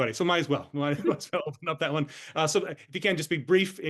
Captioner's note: laughs